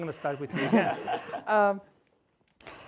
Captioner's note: laughter